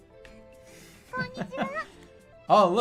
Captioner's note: giggling